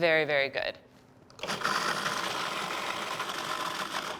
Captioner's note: food processor whirring